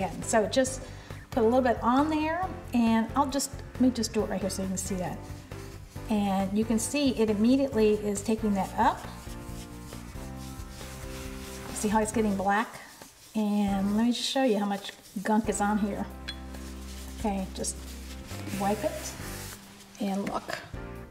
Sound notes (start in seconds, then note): 9.4 scraping